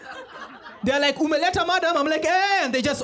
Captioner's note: non-english speech